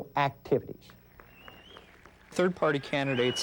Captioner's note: cheering